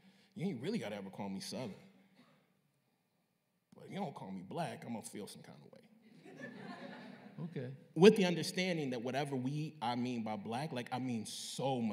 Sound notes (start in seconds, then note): 6.4 scattered laughter